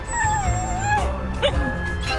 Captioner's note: dogs whimpering